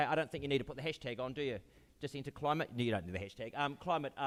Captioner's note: none